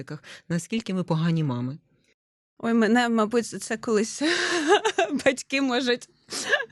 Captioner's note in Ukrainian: сміх